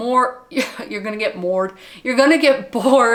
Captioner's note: laughs